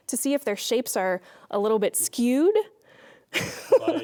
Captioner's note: laughing